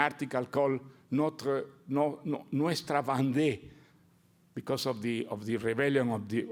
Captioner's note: speaks Portuguese